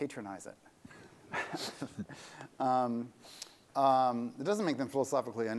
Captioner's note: laughter